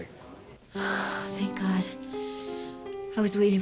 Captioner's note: sighs